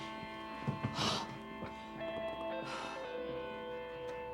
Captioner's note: exhales sharply